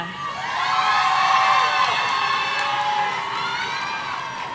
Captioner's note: audience cheering